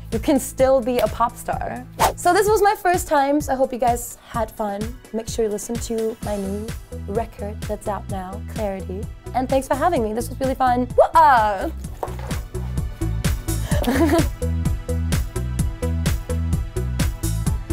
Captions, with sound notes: You can still be a pop star. (swoosh) So this was my first times, I hope you guys had fun. Make sure you listen to my new record that's out now, Clarity. And thanks for having me. This was really fun. Woo-ah! (giggles) (bouncy bass music)